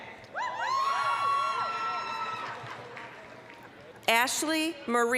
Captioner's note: applause, cheering